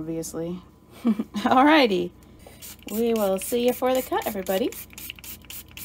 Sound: giggle

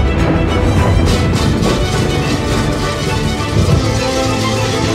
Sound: bells jangling

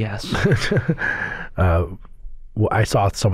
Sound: laughter

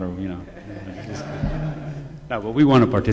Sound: laughter

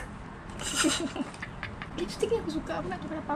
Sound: bahahahahhaha

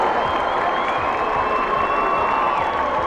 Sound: cheers and applause

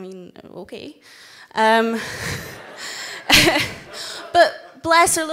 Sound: everyone laughs

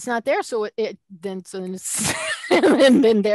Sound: laughter

